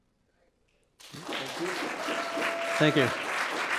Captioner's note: audience applauding